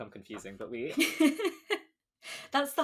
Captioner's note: laughs